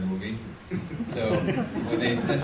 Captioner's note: audience laughs